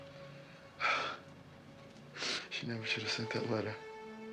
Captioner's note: Ira sighs